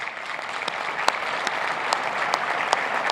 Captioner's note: cheers and applause